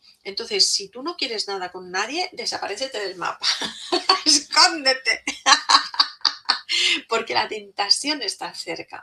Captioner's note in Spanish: risas